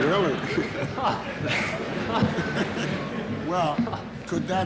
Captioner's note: laughter in courtroom